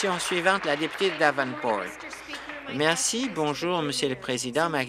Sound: applause

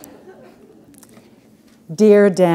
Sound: laughter

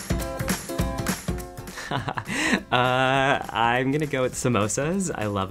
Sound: laugh

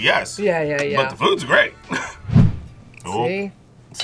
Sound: laughs

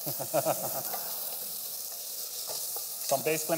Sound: laughter

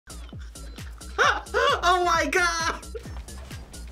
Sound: upbeat house music; laughs

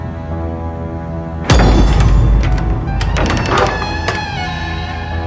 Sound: door opening

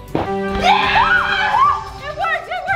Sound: victory music; screaming

